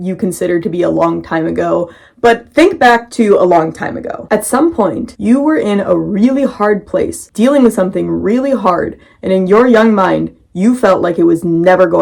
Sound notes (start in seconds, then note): none